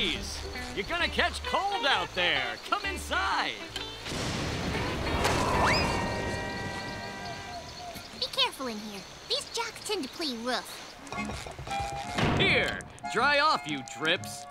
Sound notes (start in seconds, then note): 4.0 thunder rolls; 4.9 wind blows